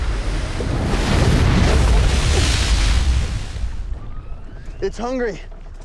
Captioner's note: roaring, chewing